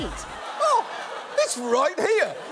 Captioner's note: audience laughs